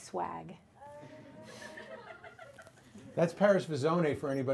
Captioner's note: audience laughs